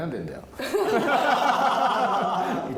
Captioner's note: laughs